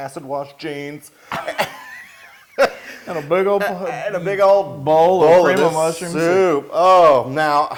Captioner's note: laugh